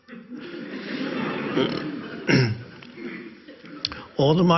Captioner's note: audience laughs